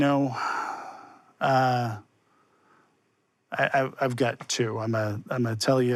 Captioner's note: sighs